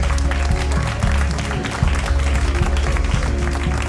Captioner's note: applauding continues